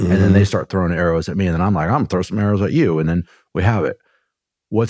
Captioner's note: clears throat